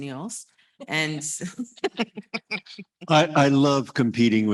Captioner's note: panel laughs